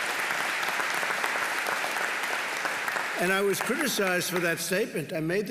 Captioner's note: applause